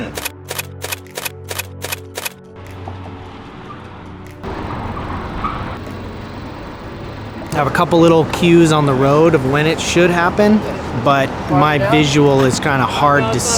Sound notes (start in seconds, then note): 0.1 camera shutter clicking; 4.9 soft car engine humming